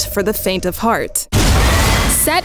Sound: creature roars

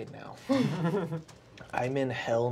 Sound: laughing

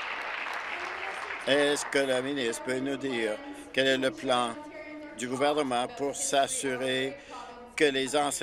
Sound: some Applause

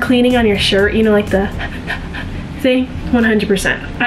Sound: exhaling rapidly

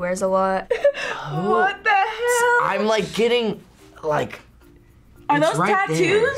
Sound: laughs

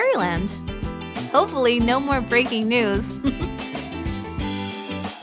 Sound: chuckle

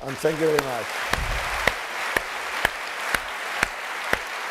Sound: applause

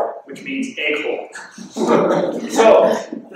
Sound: laughing

